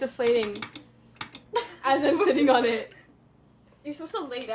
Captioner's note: clicking